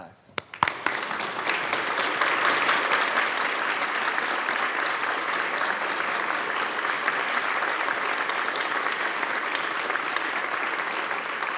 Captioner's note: applause